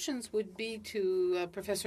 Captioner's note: speaking French